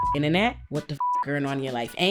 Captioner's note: beep